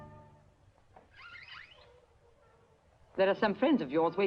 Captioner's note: door creaking